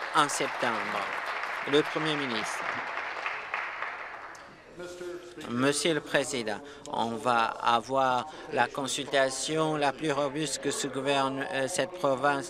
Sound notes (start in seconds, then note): 2.4 applause